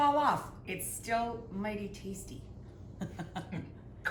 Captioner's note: laughs